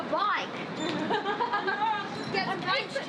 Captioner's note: laughs